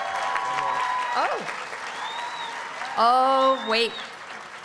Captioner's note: applause and cheering